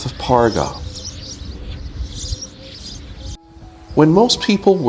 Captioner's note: birds chirping